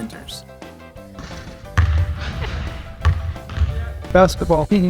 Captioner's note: lively retro music; basketball thudding